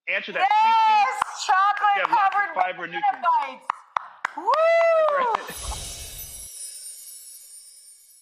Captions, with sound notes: Chocolate covered banana bites. (clapping and screaming) (laughing)